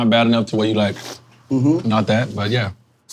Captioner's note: lips sucking